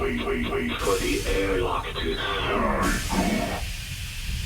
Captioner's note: powers down